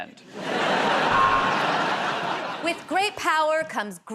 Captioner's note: buzzer buzzes